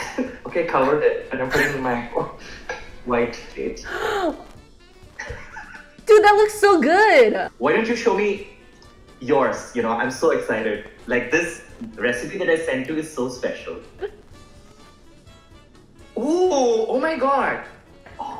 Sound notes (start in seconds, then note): 3.8 gasps; 14.2 upbeat music